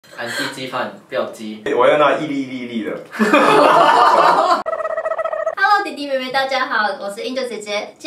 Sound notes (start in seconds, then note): 3.2 everyone laughed